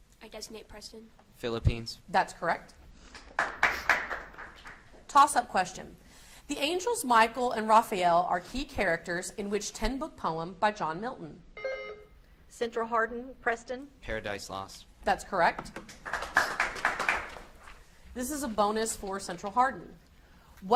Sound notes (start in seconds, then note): 3.2 audience applauds; 11.5 beep buzzing; 15.9 audience applauds